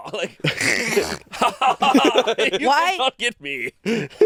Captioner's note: chuckling